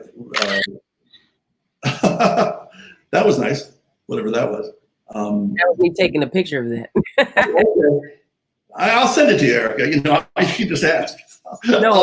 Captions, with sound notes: (camera shutter clicking) (laughing) That was nice, whatever that was. - That was me taking a picture of that. (laughing) - Okay. I'll send it to you, Erika, if you just ask.